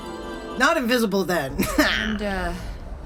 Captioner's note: the sound of the space station returns